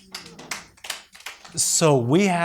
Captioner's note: audience applauds